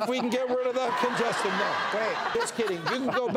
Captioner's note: audience cheers